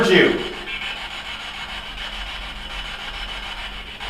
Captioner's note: static buzzing